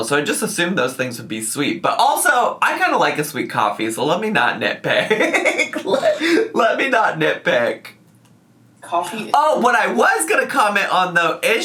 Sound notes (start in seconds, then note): 4.9 laughs